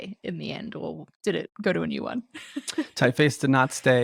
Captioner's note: laughs